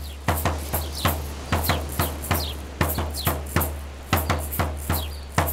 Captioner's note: birds chirping